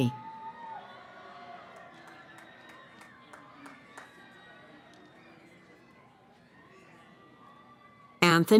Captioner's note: cheering